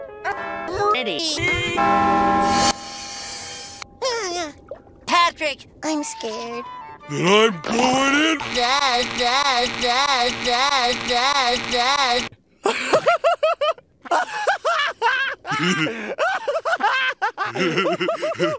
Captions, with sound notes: I'm ready! [CHURCH BELL OF DOOM] Patrick, I'm scared. Then, I'm going in. [MORE LAUGHTER] [PATRICK LAUGHING, TOO]